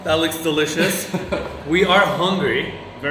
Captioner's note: chuckles